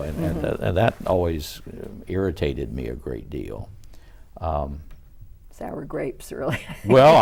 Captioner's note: laughs